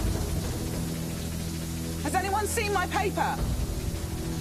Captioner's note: shouts